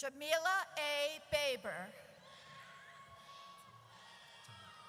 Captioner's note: audience cheers